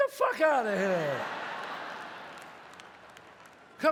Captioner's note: audience laughs